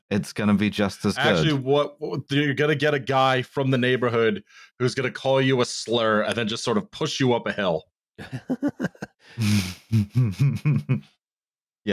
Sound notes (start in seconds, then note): 8.2 laughter